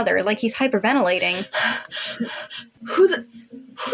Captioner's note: heavy Breathing